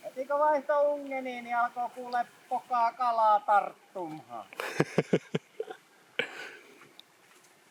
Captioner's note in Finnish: naurua